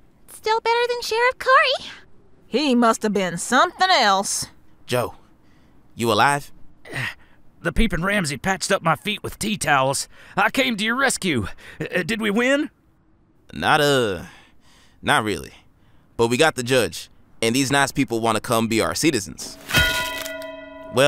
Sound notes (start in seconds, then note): 6.8 grunting in pain; 19.6 bell thuds into bodies and tolls